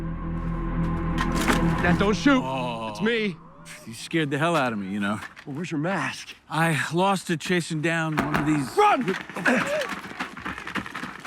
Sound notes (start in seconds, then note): 8.0 paintball gunfire